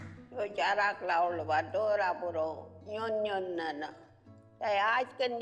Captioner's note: speaks foreign language